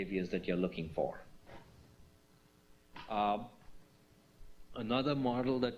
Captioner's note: pause